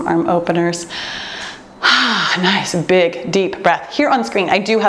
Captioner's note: exhales deeply